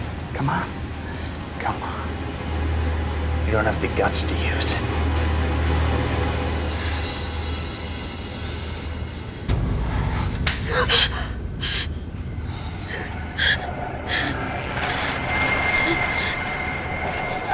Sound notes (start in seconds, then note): 10.8 gasps